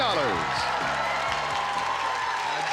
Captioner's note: cheering